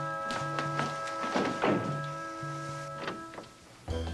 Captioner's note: door closing